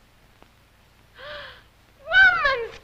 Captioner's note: gasps